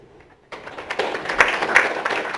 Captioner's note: applause